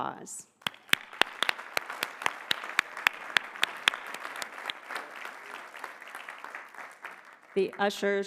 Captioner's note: applause